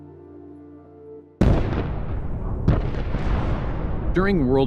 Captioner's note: cannons firing